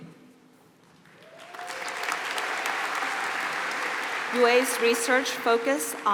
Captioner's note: applause